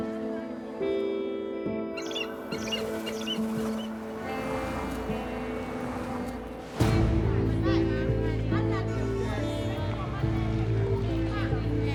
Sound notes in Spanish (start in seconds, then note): 6.0 ruidos del tráfico